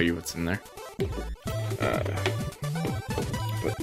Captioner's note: fumbling noises